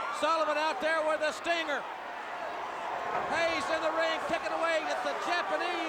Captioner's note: crowd cheering